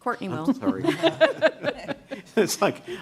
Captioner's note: laughter